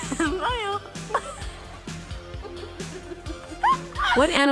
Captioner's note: people laughing; fun music